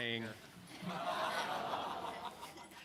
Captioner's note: laughter